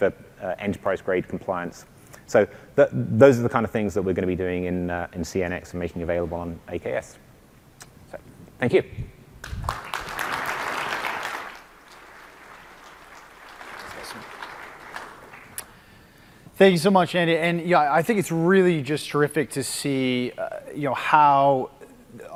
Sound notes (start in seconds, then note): 12.3 applause